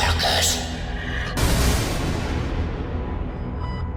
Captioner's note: gunshot